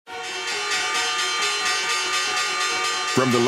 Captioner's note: bell clinging